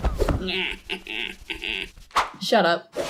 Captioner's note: Gooby giggle